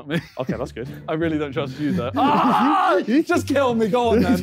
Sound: screaming

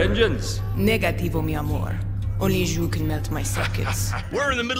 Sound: laughs

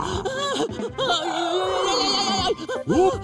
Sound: monster sounds; scared sounds

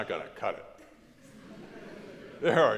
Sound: crowd laughs

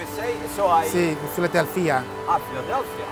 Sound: speaks Italian

